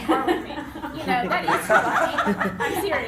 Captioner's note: laughing